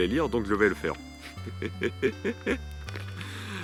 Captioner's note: laughs